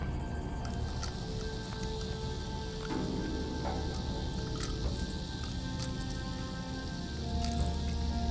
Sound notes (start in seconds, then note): 1.3 rattling